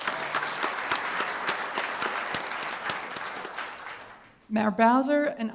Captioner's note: applause